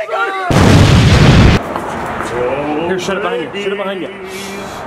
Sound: all yelling; explosion

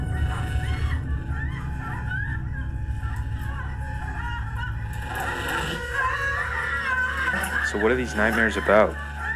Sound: movie screams

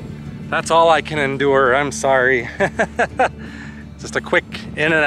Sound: laughter

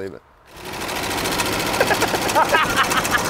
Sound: engine running; laugh

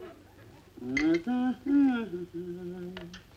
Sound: Joan Humming

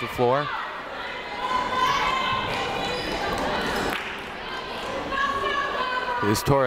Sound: people shouting in the crowd

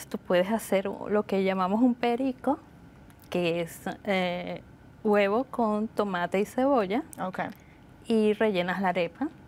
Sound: speaking Spanish

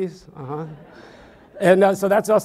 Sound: audience laughs

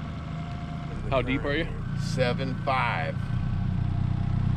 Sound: boat engine idling

